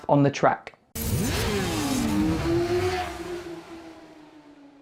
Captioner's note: motorcycle roaring